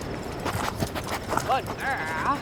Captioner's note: dog panting